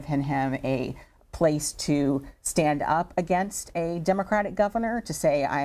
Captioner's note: none